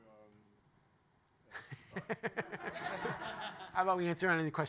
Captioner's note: laughter